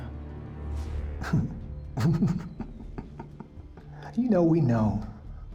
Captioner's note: laughing